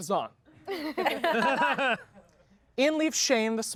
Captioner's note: everyone laughs